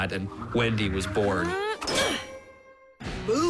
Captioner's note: grunts